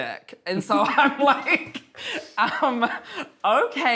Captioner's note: laughs